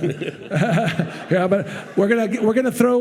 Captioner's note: participants and audience laughing